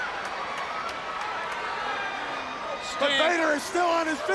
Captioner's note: crowd cheering